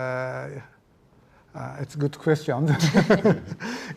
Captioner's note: laughing